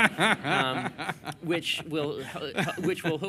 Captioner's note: laughter